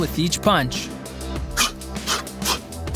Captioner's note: sharp exhaling